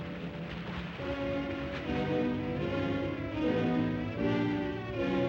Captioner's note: ominous music; water splashes; suspenseful music